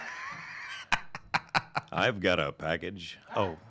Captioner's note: laughs